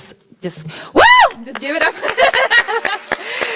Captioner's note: applauds; laughs